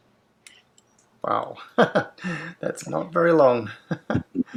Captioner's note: laughs